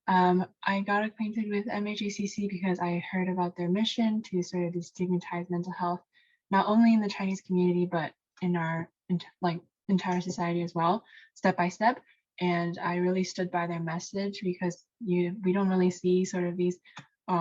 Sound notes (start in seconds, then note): none